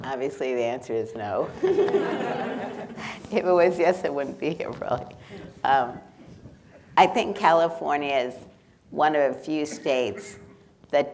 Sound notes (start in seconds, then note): 1.5 people laughing